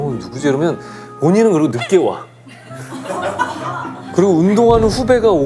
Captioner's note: haha